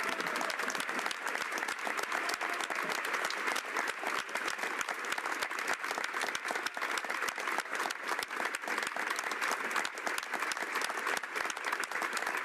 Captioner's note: applause